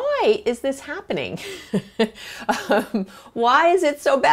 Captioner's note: laughs